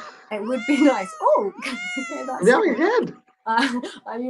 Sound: meow sounds

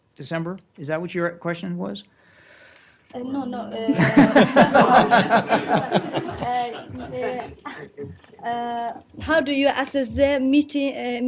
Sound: laughter

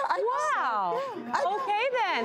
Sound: laughing

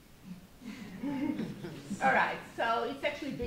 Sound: audience chuckles

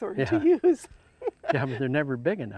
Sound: laughs

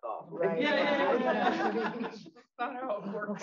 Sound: audience laughs

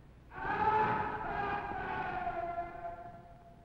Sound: Neil screams

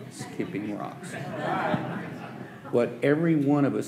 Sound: audience laughing

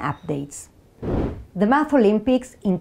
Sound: slide whooshes

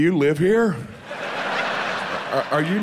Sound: audience laughs

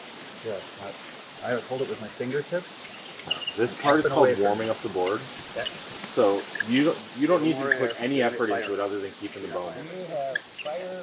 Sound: background talking

